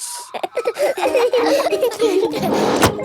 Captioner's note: all laughing